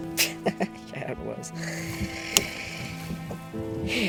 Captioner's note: laughs